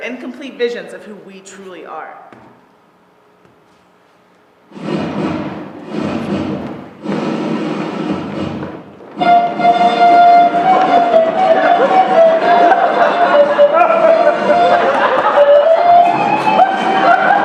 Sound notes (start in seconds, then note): 4.6 fanfare; 10.9 laughter